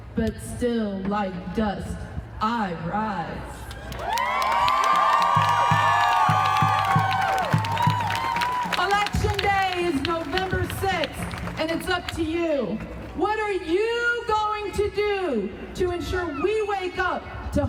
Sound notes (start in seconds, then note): 3.7 crowd cheering and applauding